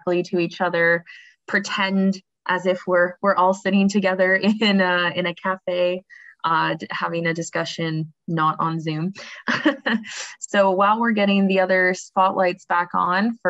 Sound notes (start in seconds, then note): 9.4 laughs